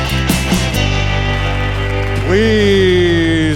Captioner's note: audience applauding